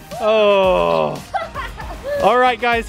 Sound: laughs

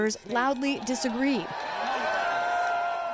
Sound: cheering and applause

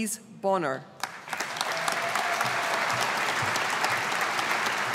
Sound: audience applauding

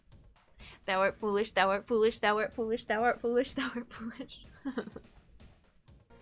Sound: laughing

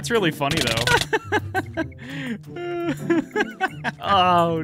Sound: laughs

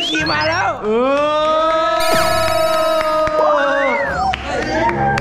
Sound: applauding; cheering

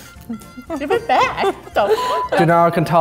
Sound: beep

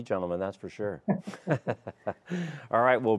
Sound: laughs

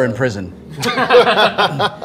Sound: laughter

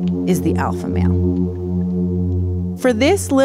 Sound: humming

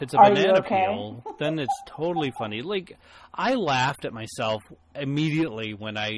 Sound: laughs

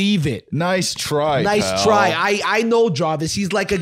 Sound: new York accent

